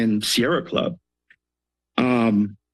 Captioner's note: pause